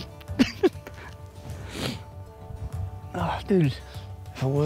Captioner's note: laughing